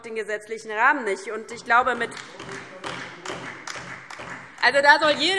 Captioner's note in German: Beifall DIE LINKE und SPD